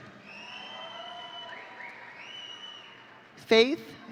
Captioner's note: audience cheering